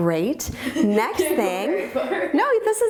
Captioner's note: laughs